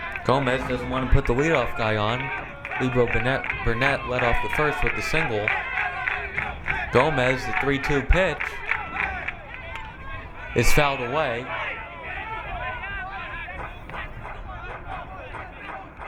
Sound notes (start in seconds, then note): 12.4 crowd muttering